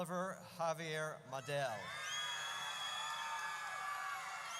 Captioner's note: audience cheers